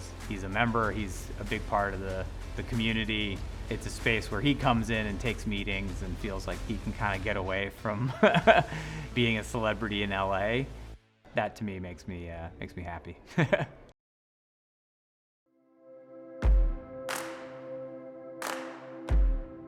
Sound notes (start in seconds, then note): 8.0 laughing; 13.2 laughing; 15.8 bright upbeat music